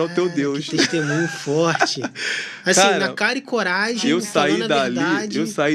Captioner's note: risadas